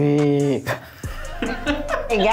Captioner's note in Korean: 웃음